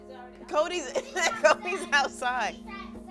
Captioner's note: laughing